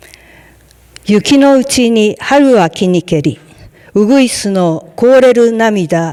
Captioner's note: speaking in Japanese